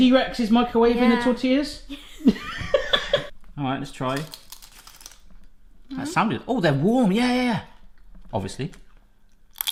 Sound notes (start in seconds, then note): 2.2 laughs; 4.0 crunching